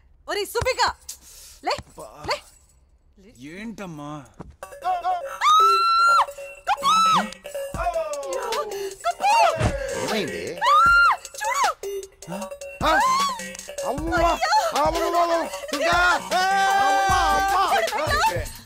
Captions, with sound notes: Subbu! Wake up! Come on! What is it, mom? (Screams) Kuppu! Oh dear. Kuppu! What's wrong? Look! (Gasps) Oh no. - Oh no. Subbu! He has a..